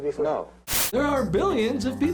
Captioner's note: static